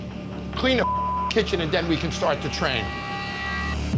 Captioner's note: beep